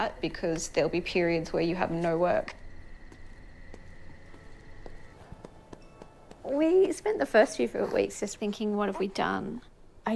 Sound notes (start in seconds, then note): 4.7 footsteps thudding